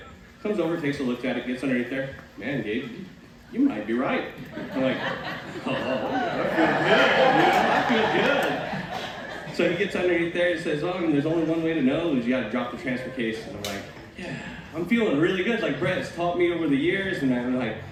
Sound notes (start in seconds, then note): 4.4 laughter